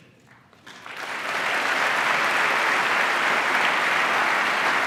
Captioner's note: applause